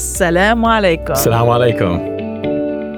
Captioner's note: woman speaking in foreign language; man speaking in foreign language